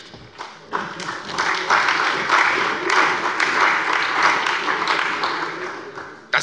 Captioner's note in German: Beifall bei der CDU und dem BÜNDNIS 90/DIE GRÜNEN